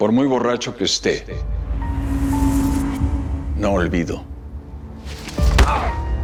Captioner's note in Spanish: Quejidos